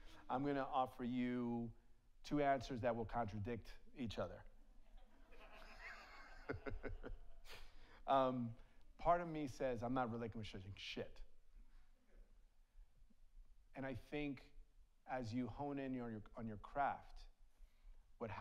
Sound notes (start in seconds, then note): 5.2 audience laughs; 5.3 laughs